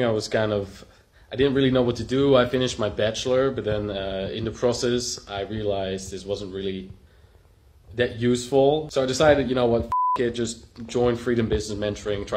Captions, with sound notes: I was kind of, I didn't really know what to do. I finished my Bachelor but then in the process, I realized this wasn't really that useful. So I decided, you know what, (beep) it, just join Freedom Business Mentoring,